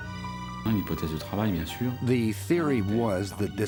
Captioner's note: speaks in foreign language